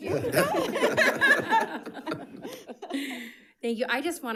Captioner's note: members laughing